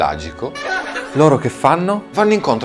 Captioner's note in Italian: risata